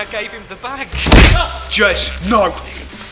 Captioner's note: fist pounding; Clive groaning